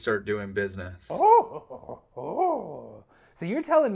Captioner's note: higher pitched grunting